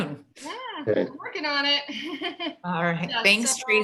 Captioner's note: laughs